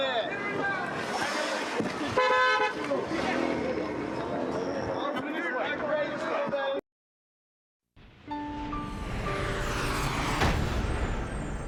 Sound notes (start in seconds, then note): 2.1 honks horn